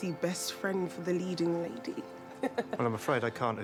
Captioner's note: laughs